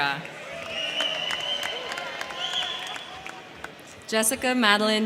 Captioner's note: crowd clapping; crowd cheering